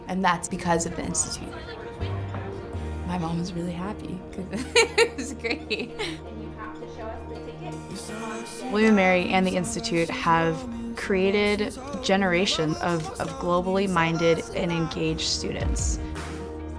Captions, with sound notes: and that's because of the Institute. My mom is really happy (chuckling), it's great. - William & Mary and the Institute have created a generation of globally-minded and engaged students.